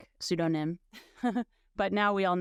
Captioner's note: laughing